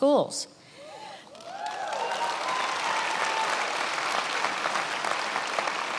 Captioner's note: attendees applauding